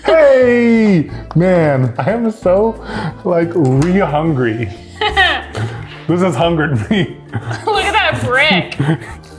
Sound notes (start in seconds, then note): 4.9 laughs